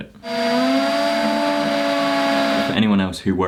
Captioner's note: drill whirring